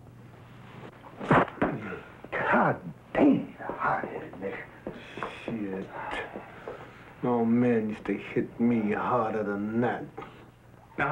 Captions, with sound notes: (punch thuds) - God damn, hot headed nigger. - Shit, my old man used to hit me harder than that.